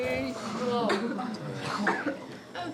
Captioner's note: coughing